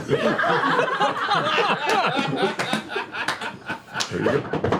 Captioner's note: laughter